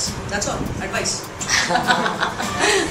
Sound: laughing

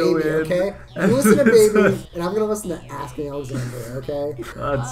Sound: laughs

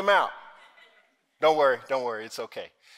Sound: audience laughing

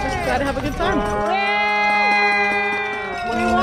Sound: spectators cheering wildly

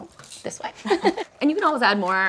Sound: laughter

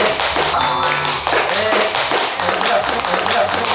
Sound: everyone applauds her awesome roll

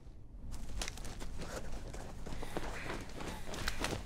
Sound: panting

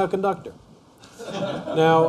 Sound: laughter

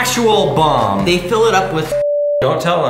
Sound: beep

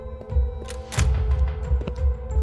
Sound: door opens

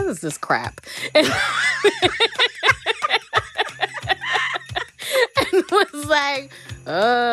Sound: laughter

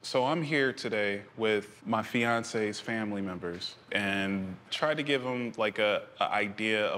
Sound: none

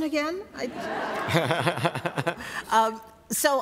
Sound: laughter

